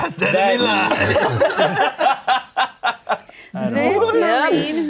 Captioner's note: laughing